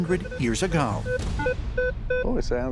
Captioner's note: beeping